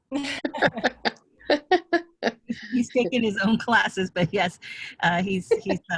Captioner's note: laughter